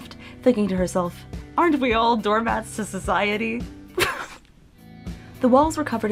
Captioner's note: surely laughing